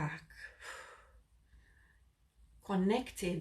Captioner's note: blonde woman breathes deeply